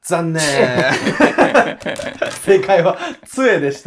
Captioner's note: laughing